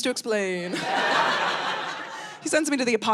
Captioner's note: audience laughing